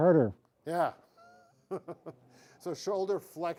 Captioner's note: laughs